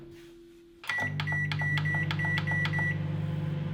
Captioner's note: beeps